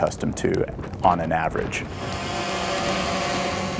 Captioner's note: drone buzzing